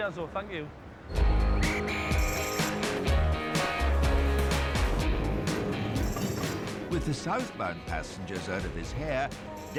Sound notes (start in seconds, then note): 1.1 whistle blows; 1.1 upbeat rock music